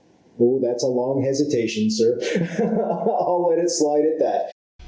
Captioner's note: laughs